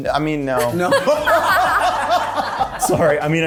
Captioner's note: cast laughing